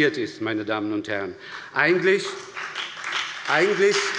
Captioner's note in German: Beifall bei der SPD und der FDP